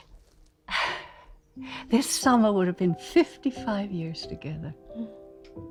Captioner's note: sighs